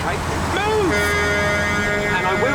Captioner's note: horn blares